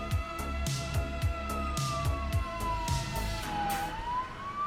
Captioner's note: police siren